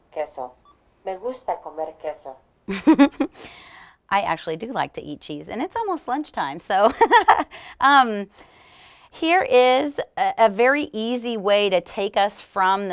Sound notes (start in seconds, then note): 8.6 laughter